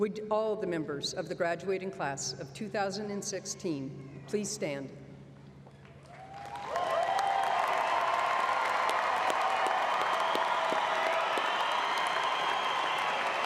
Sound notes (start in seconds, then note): 8.8 applause